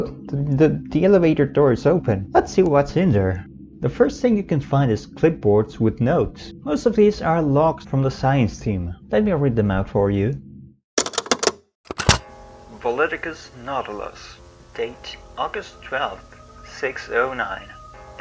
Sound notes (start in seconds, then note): 11.8 cassette player button sounds